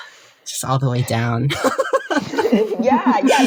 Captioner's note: laughing